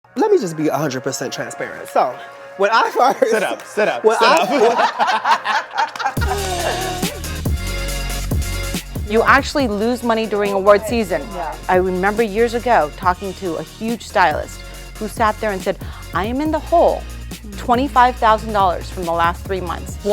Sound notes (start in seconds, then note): 3.9 laughing; 3.9 laughs; 4.6 upbeat music